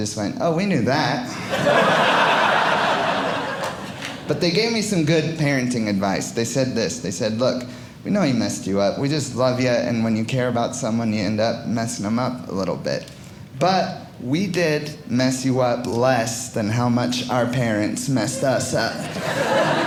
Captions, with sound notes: "oh, we knew that." (audience laughing) But they gave me some good parenting advice. They said this. They said, look, we know we messed you up. We just love you, and when you care about someone, you end up messing them up a little bit. But we did mess you up less than how much our parents messed us up.